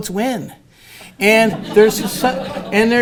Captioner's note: laughter